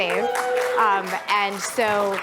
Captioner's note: applause